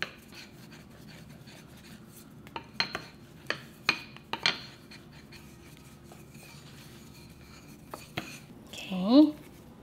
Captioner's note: rolling pin tapping sound